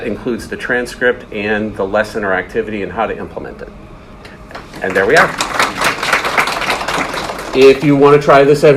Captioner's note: audience claps